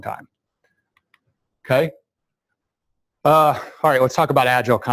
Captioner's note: pause